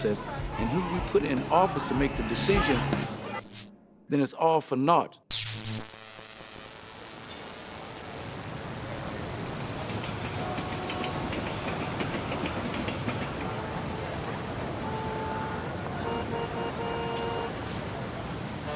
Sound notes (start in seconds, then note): 5.3 electricity buzzes; 9.8 train wheels clacks; 16.5 car horns honk